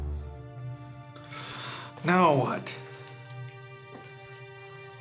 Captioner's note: sighs